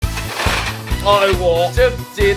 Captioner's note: clunk!